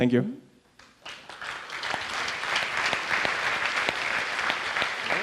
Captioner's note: audience applauds